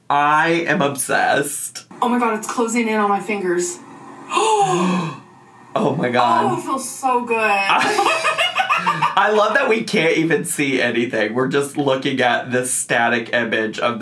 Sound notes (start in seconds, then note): 3.8 gasp softly; 7.7 laughs loudly